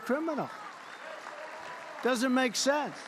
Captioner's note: applause